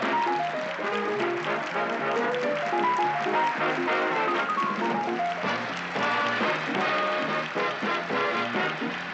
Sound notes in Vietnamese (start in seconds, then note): 2.9 Tiếng vỗ tay